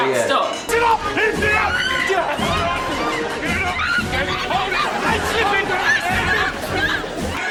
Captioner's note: general commotion and chatter